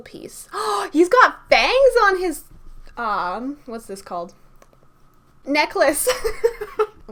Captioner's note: gasp